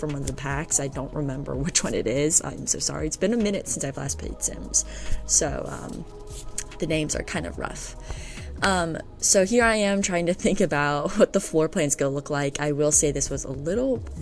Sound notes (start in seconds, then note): 7.6 sighs